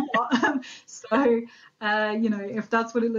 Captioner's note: both laughing